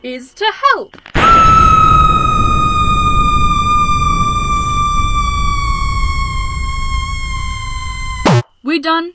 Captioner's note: extremely loud scream